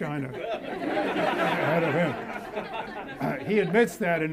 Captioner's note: audience laughs